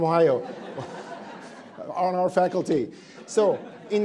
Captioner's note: attendees laughing